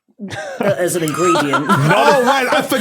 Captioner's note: laugh